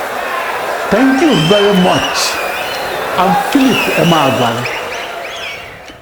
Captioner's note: wild applause and cheering for 22 seconds